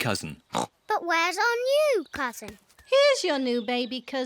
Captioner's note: oinks